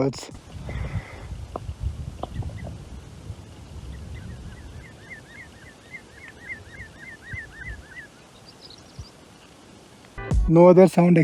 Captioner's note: birds chirping